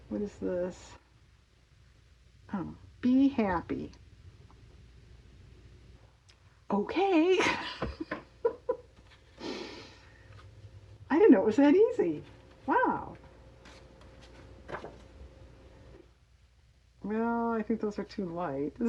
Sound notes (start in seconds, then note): 7.4 laughs